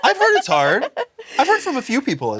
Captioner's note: Blaire giggles